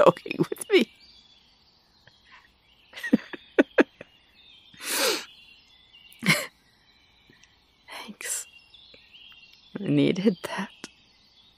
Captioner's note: laughing, crying